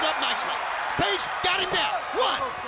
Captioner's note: crowd cheering